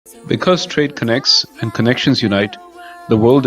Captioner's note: voiceover